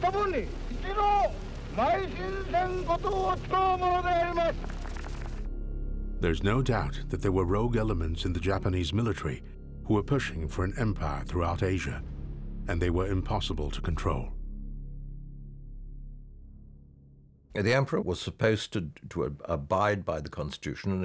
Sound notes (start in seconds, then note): 3.5 people applauding